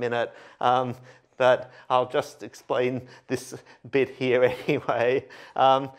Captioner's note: laughter